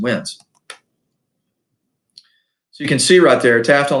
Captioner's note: mouse clicks